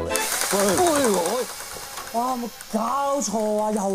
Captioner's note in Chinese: 電鑽聲